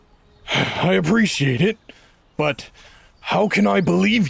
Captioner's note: sighs